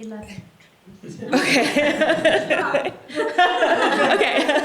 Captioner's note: laughter